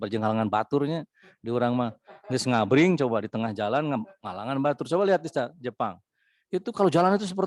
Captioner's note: speak in Sundanese